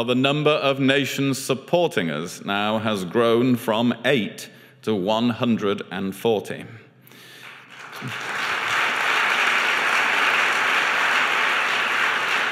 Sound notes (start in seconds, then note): 7.2 applause